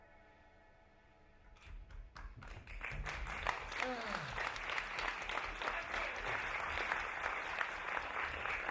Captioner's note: applause